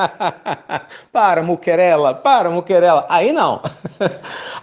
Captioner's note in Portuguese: risos